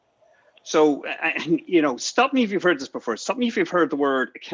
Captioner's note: giggles